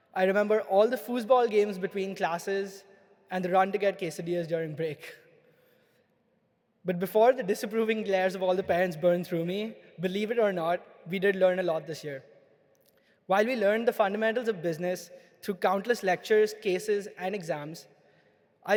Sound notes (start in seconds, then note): none